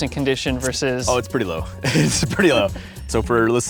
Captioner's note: chuckles